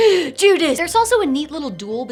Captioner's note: gasps